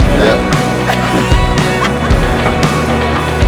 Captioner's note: laughter